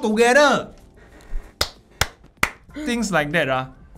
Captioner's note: claps